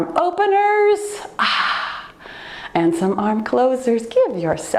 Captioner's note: sighs deeply